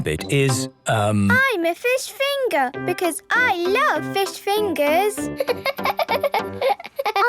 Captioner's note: laughing